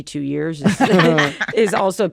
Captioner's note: laughs